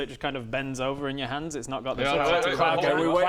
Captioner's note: none